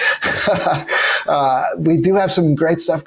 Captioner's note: chuckles